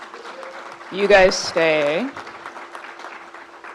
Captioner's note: crowd applauds